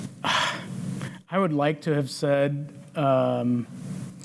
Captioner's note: sighs